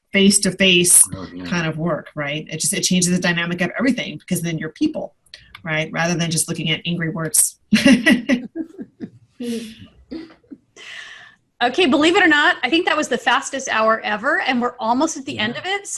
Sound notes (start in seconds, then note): 7.8 laughing